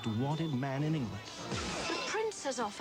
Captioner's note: metal smashing against metal